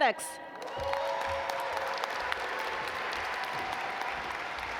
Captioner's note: audience applaud